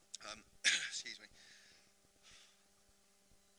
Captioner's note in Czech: zakašlání